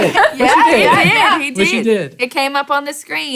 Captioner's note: laughing